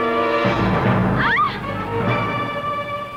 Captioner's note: screaming